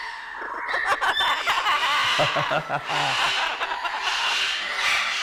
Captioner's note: Parrot makes laughing sound